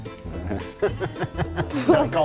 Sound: laughing

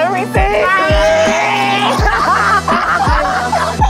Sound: laughing

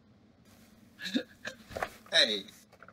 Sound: laughs

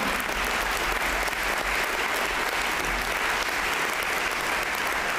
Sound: applause

